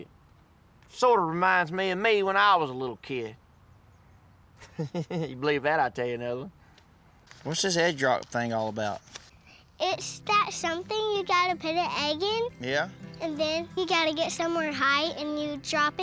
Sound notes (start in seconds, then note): 4.6 chuckles